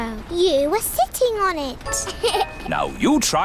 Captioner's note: laughs